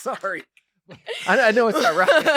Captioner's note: laugh